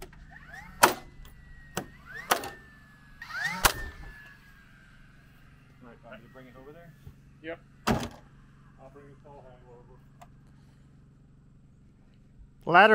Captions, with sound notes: (nail gun firing) - Mind if I bring it over there? - Yep. - I'll bring the saw back over.